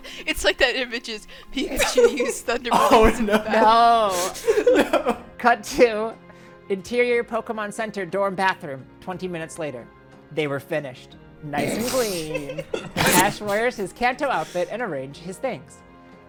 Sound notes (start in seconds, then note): 11.6 laughs; 11.6 laugh